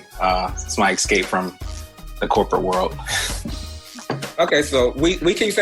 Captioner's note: laughs